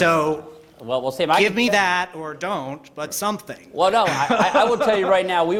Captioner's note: laughter